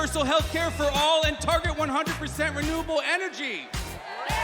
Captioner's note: cheers and applause